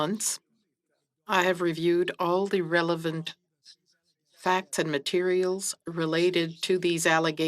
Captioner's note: speaking French